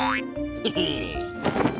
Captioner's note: laughs